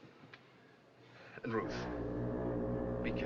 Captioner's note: foghorn Blows